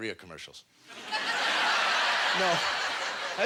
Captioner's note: audience laughter